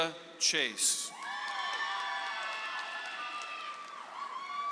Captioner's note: audience applauds